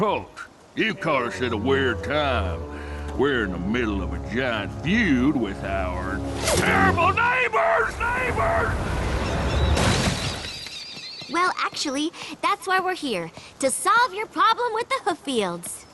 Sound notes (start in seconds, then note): 7.9 echo; 9.6 crash